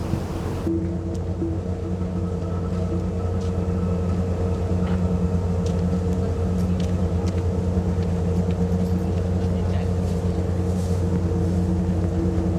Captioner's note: engine humming